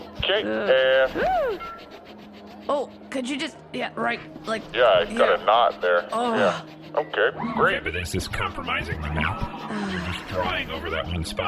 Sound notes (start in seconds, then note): 0.0 marker sounds and giggles continue; 6.4 marker sounds continue